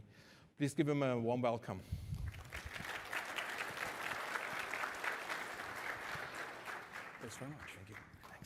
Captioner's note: applause